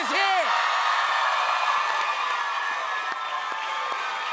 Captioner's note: cheers and applause